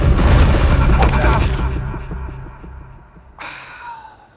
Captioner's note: ball thwacks